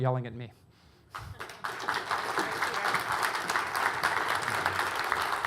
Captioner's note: audience applauding